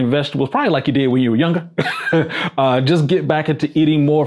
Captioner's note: laughs